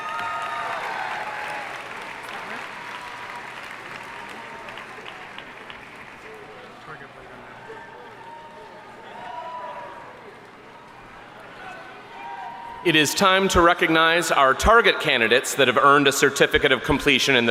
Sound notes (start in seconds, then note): 0.1 audience cheering and applauding; 6.4 crowd chattering